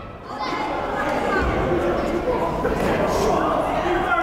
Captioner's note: yelling